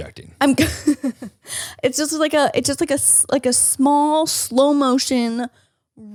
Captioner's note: laughs